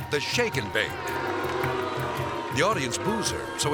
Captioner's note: audience booing